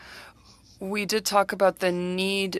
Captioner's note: speaking French